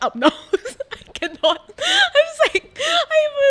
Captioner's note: laughs